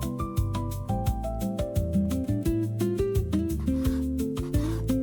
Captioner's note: sizzling